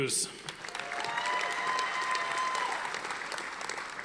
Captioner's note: audience applauding